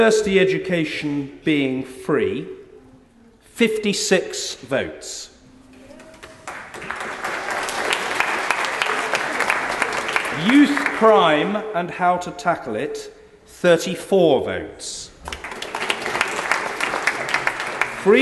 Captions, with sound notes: University education being free -- 56 votes [background applause] Youth crime and how to tackle it -- 34 votes [background applause]